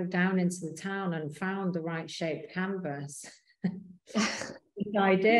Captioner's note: both chuckling